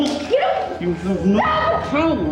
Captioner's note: Brenda cries out